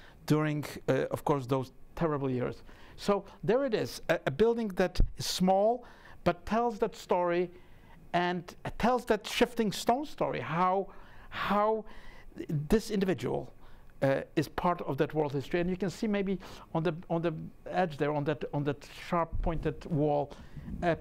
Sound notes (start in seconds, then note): none